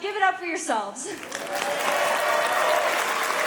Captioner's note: applause; cheering; applause; cheering